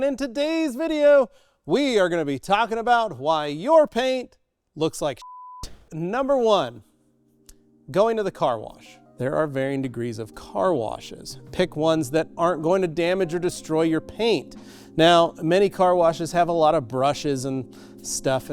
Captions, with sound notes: and in today's video, we are gonna be talking about why your paint looks like (beep) Number one, going to the car wash. There are varying degrees of car washes. Pick ones that aren't going to damage or destroy your paint. Now, many car washes have a lot of brushes and stuff,